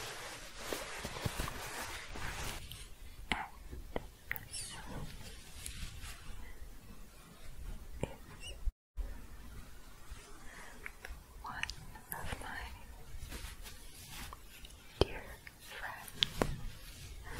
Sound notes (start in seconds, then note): 0.0 shuffling; 9.4 quiet shuffling; 17.1 shuffling